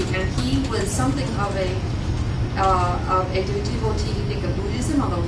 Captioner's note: non-english